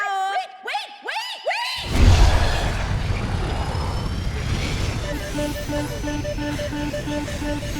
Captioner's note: alarm blaring